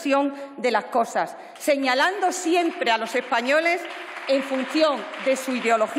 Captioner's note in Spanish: aplausos